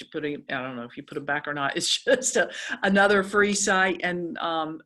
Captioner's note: laugh